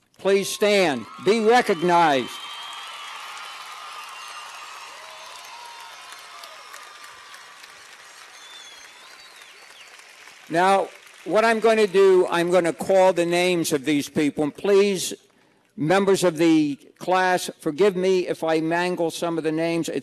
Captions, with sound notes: Please stand, be recognized! (cheers and applause) Now, what I'm going to do, I'm going to call the names of these people, and please, members of the Class, forgive me if I mangle some of the names.